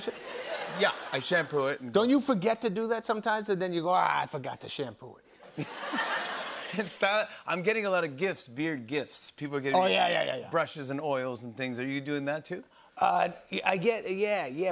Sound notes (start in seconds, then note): 0.0 laughter; 5.4 laughter